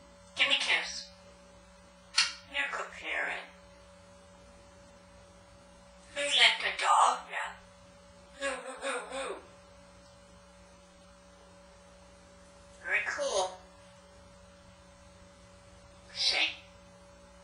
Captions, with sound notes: Gimme Kiss! (kiss sound) You're a good parrot. Who let the dogs out? Who, who, who who? Very Cool! Shake!